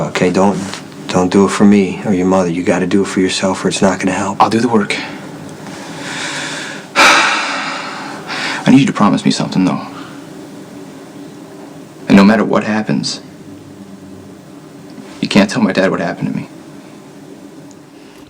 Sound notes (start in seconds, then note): 4.9 sighs